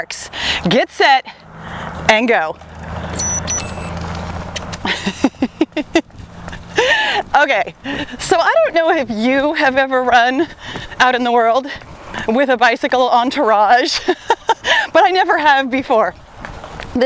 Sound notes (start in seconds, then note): 3.1 watch beeps; 4.8 laughs